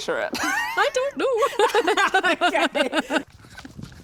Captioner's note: laughing